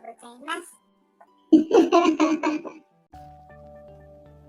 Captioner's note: laughs